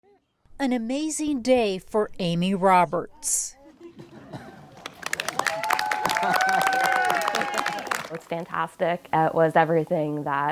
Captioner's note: cheers